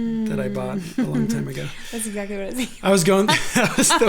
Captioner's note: laughs; both laughing